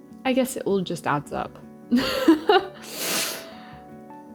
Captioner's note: laughs